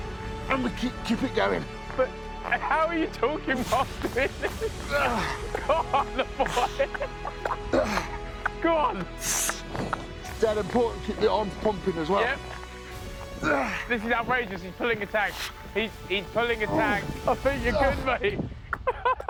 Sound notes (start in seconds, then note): 3.6 laughing; 4.7 grunting